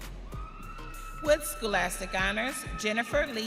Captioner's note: audience cheering